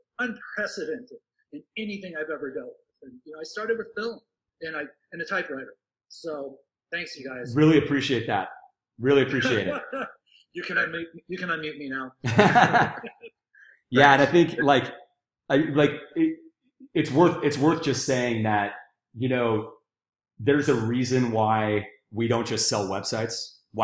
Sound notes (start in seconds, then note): 9.3 chuckling; 12.2 laughing